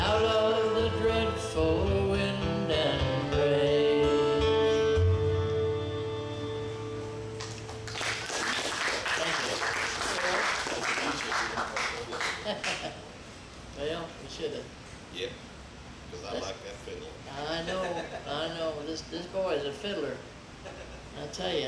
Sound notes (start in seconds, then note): 7.4 audience clapping; 10.6 laughs